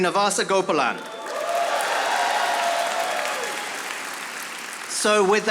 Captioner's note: audience applauding